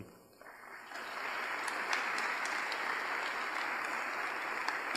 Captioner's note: audience applauds